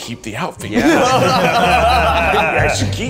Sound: group laughs

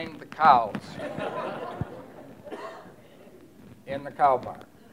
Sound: laughter

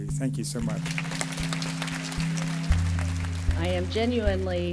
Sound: applause

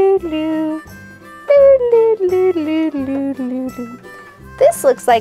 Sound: makes strolling noises

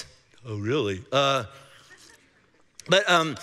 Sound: congregation laughing

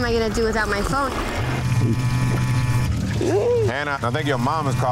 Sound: cell phone buzzing; laughing

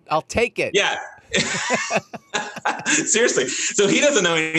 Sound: laughing

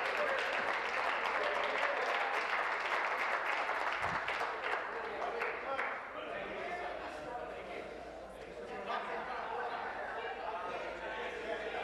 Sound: applause

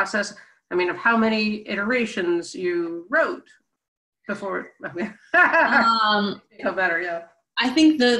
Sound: laughs

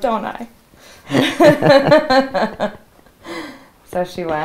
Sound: laughing

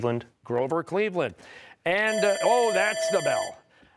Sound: bell ringing

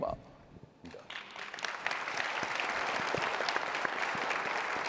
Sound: audience clapping

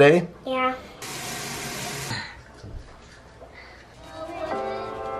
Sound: running water; piano playing

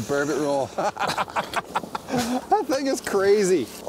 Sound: laughs

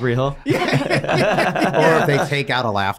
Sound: both laugh

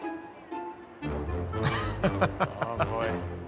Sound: laughs

